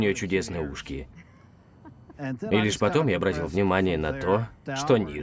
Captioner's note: chuckles